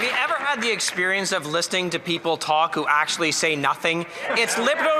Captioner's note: some Applause